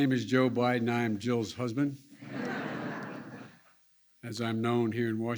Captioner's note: laughter